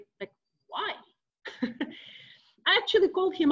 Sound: chuckles

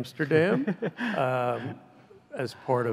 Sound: laughs

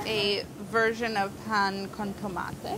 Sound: speaking in foreign language

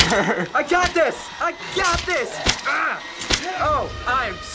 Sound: grunts

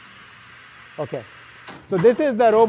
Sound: motor whirs

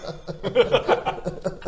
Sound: laughs

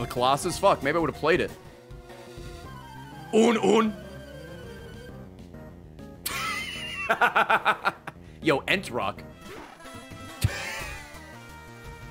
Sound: laughs

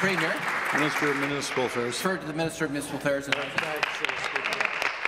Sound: applause

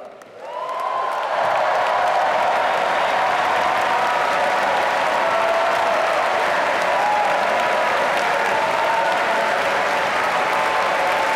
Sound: applause

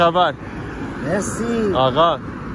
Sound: Farsi

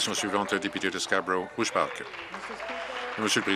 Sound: applause

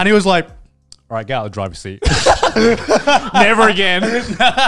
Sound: laughing

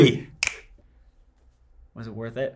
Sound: finger snap

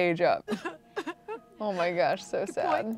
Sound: Chelsea crying

